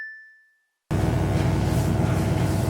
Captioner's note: bell dings; electric buzzing